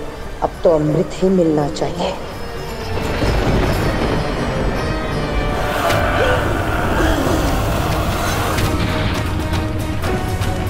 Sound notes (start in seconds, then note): 2.6 thunder rumbling; 8.3 dramatic music playing